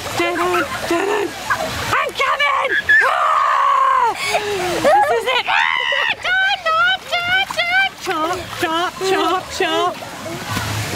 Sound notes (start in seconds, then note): 0.3 giggling; 4.0 laughing; 4.8 screams